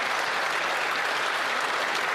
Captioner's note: applause